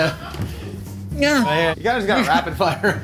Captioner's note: straining